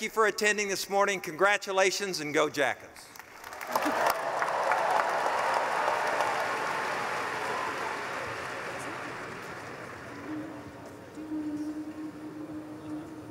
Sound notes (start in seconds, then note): 3.4 cheering; 11.0 humming